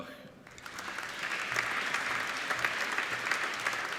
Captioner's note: applauding